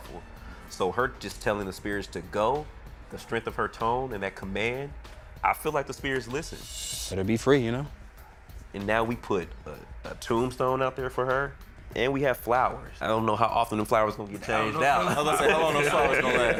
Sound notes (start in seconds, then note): 14.4 laughing